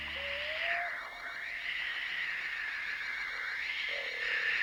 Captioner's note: eerie whirring and buzzing